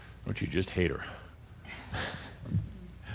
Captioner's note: Adamus chuckles